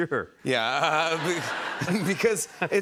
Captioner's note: laughing